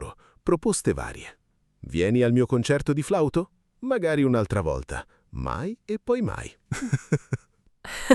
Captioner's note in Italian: risate